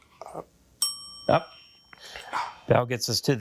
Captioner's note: bell dings